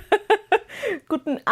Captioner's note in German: gelächter